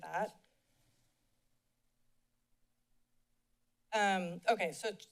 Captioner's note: silence